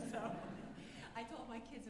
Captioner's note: alumni laughing